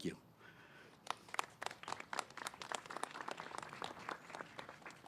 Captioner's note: applause